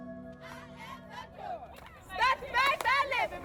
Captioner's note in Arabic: يهتف